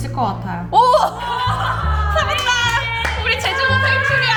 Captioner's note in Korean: 백성들의 환호성